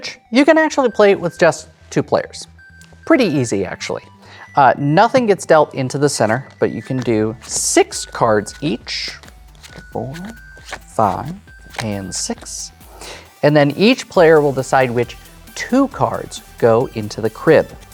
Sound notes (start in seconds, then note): 3.5 lo-fi hip hop music playing; 11.4 cards slapping